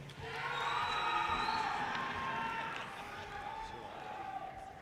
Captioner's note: audience cheers and applause